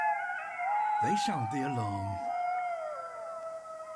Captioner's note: both howl; distant howling